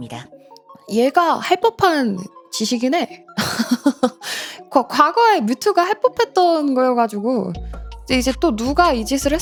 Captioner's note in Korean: 웃음